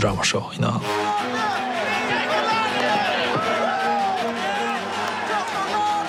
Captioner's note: crowd cheering